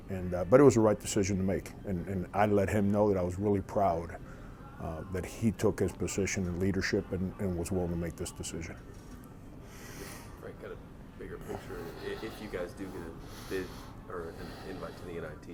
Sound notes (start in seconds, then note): 11.4 murmurs